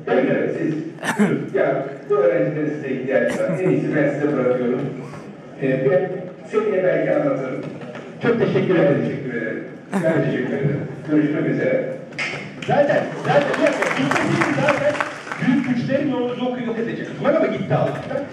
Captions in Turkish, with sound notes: - Evet evet siz. Ya bu öğrencilerin size ihtiyacı var en iyisi ben size bırakıyorum. Ben seneye belki anlatırım. - Çok teşekkür ederim - Ben teşekkür ederim, görüşmek üzere (alkışlar) - Zaten, bir dakika, zaten gitmeseydi, büyük güclerimle onu yok edecektim.